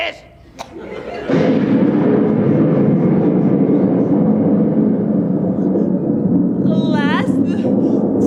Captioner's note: thunder